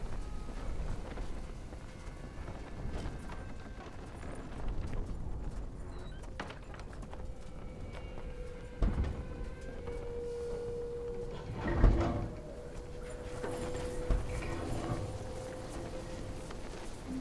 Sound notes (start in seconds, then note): 2.8 tarp blowing in the wind; 9.4 suspenseful music